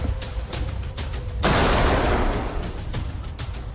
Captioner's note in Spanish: Explosión